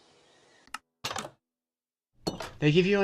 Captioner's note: armory door opens